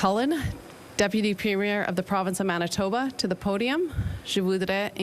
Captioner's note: speaking FRENCH